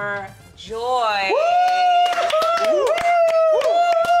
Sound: cheering

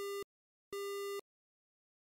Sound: beep

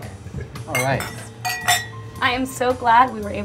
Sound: clinking glass

